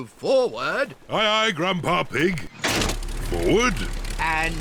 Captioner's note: lever clunks